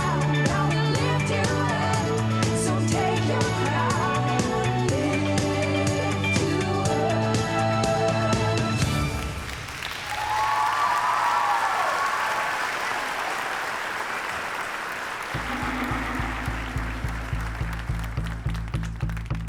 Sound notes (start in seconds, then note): 9.6 cheering and applause